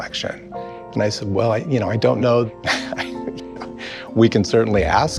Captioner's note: laughs